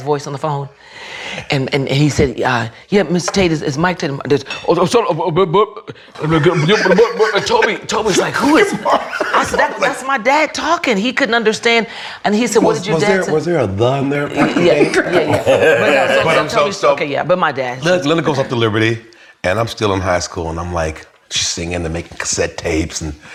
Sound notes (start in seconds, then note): 4.3 speaks gibberish; 6.0 all laughing